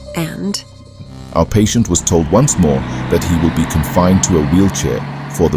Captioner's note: vehicle noise